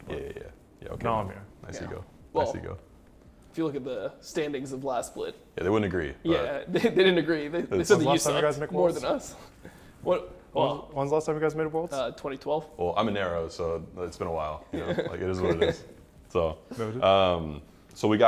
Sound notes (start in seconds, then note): 14.7 laughs